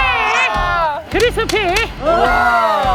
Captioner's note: claps